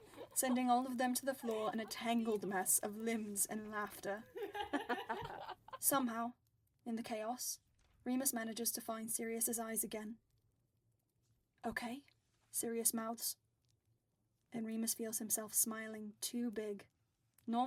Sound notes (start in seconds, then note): 9.4 chatter fades